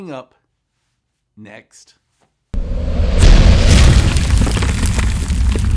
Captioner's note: banging loudly